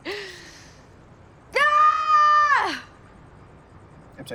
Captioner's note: longer yell